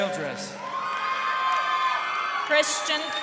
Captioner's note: crowd cheering